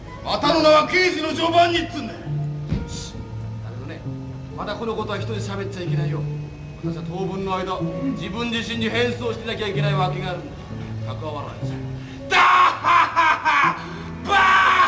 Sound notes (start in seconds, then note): 12.4 I laugh loudly